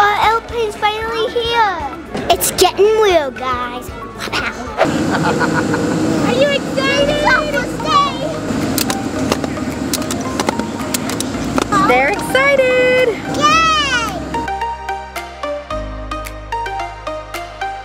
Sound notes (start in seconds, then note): 4.2 laughing; 14.4 upbeat music